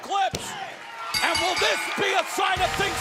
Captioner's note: bell ringing